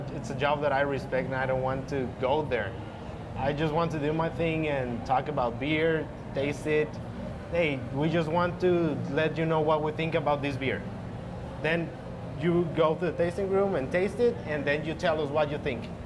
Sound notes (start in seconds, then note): none